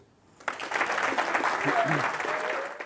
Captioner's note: audience applauds